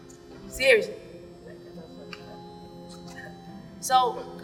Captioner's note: quietly; laughs